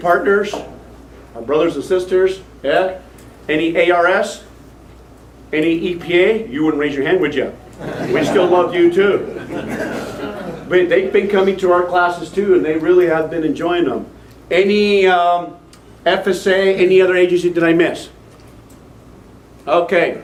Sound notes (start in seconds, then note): 9.2 laughter